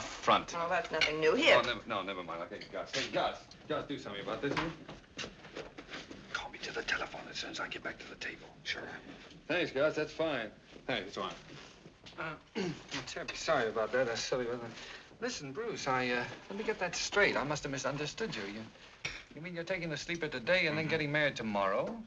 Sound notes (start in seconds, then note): 5.7 whispering; 8.6 normal voice; 12.5 clears throat